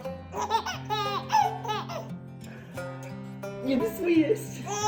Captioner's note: baby laughing